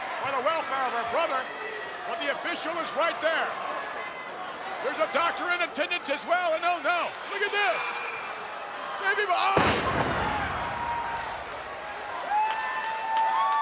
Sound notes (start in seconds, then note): 9.6 bodies thud; 10.8 crowd cheering